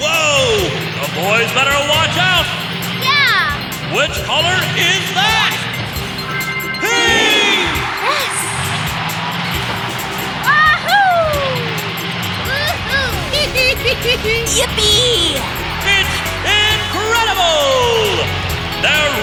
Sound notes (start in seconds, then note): 13.5 chuckling